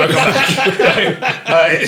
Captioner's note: laughing